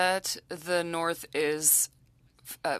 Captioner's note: speaking French